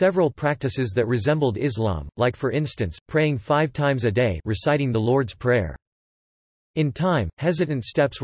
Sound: reciting the Lord's Prayer

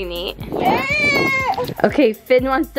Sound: cries

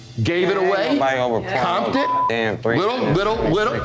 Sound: beep

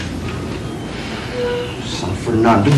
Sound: sighs

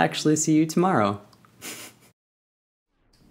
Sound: laughs

